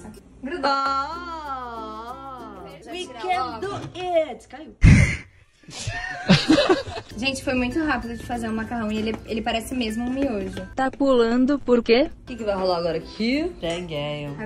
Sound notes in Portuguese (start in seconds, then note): 5.7 risos